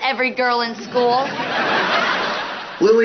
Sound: laughter

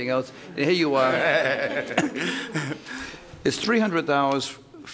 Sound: laughing

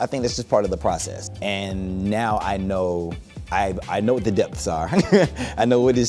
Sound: laughs

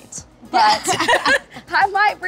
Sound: laughs

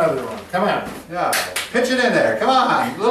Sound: claps

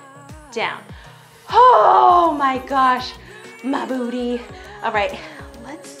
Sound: exhales heavily

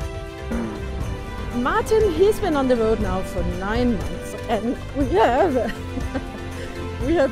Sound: laughing

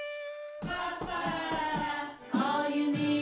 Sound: saxophone music; upbeat vocalizations

